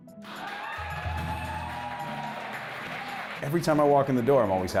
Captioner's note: crowd cheering